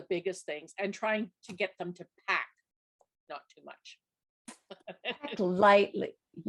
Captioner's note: laughs